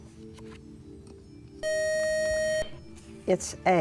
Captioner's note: loud buzzer